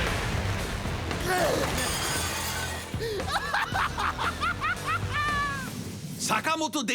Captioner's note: Jabber is groaning and laughing